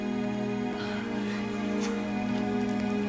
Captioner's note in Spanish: riendo